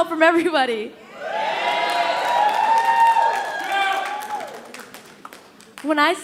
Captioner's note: audience cheering and applauding